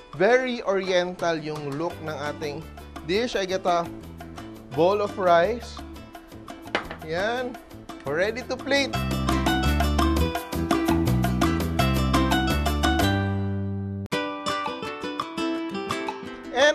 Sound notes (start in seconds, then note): 6.7 knock